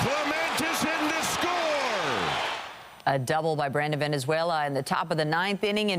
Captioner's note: applause